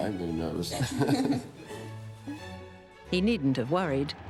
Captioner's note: laughing